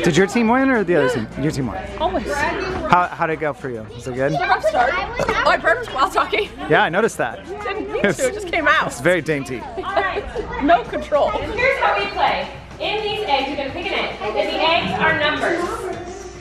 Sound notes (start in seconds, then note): 5.1 burps